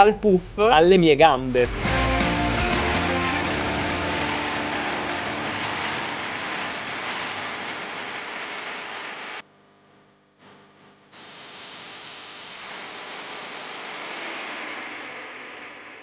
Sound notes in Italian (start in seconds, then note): 1.7 Applauso